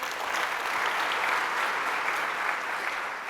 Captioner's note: applause